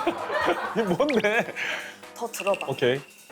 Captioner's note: holding back laughter